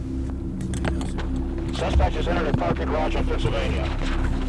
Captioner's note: officer On Radio